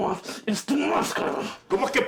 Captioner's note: Spanish